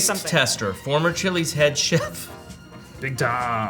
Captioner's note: laughs